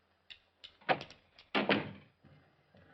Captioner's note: door opens